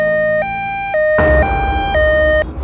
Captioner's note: ambulance